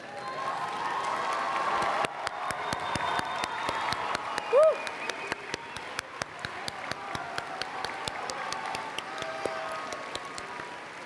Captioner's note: applause and Cheering